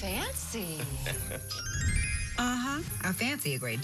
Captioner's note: chuckles